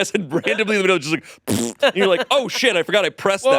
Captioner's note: imitates farting